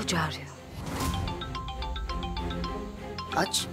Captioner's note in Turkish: Telefon Çalıyor